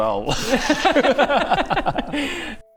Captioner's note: remorseless laughter